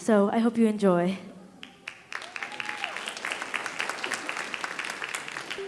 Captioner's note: audience applauding